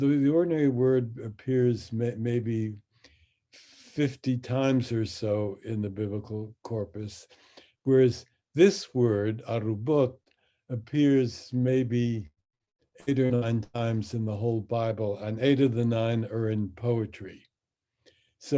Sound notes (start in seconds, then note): 10.1 speaks in Hebrew